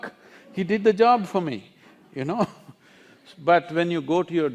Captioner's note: laughs